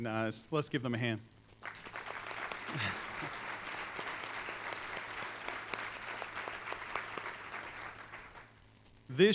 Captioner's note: applause